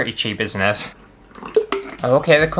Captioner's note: water Splash